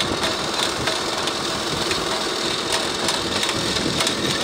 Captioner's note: crusher conveyor rumbling